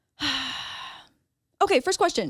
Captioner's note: sighs